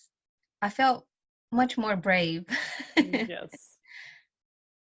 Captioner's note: laughs